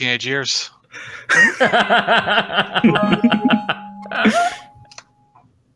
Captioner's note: laughter